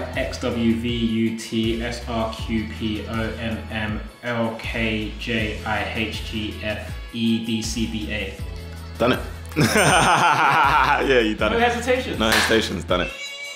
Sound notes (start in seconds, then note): 9.5 laughs